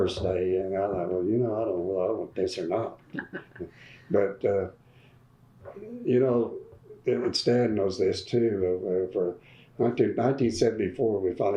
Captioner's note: laughter